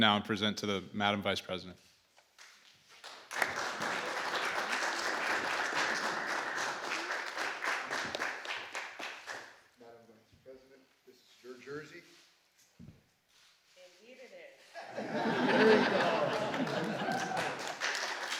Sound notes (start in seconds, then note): 2.9 applause; 14.7 laughter; 15.3 applause